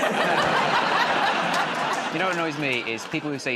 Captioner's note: laughter